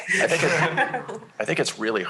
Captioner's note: laughter